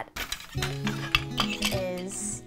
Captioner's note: shuttle rattles; machine scrapes